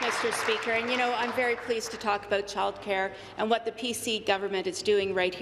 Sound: applause

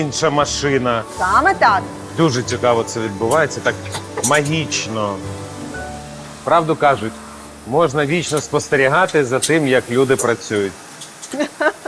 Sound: laughs

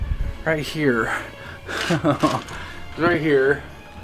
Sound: chuckling

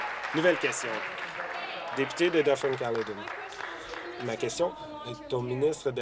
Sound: applause

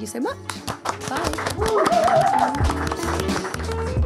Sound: people applauding; upbeat music

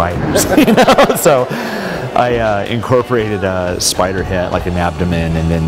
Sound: laughter

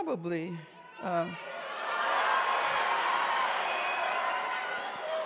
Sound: audience shouting

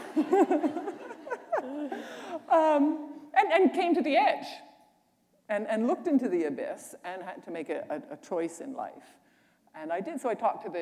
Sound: laughter

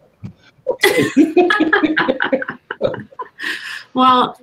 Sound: all laughing

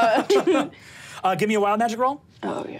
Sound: laughs

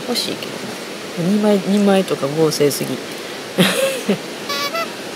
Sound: laugh

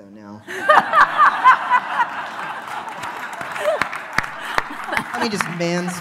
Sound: laughing

